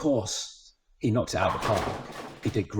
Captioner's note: bowling pins rattling